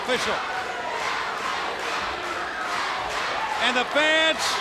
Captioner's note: crowd cheering